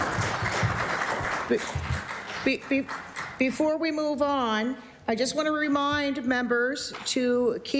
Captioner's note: applause